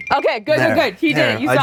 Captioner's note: squeaks